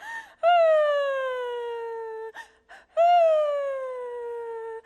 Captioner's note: Neferure gently weeps